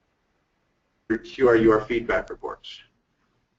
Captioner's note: voiceover